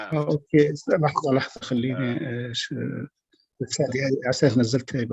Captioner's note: non-english speech